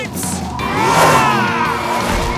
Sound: roaring

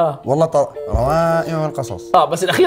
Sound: nasally

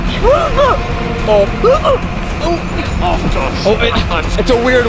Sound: muffled shouting

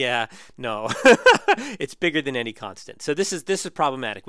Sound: laugh

